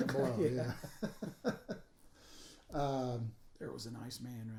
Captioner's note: laughing